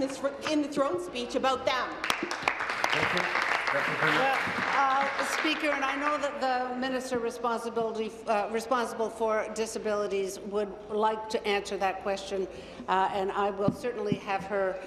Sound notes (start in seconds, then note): 6.0 applause